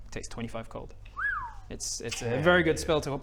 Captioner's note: impressed whistle